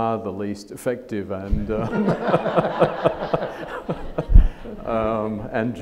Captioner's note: audience laughs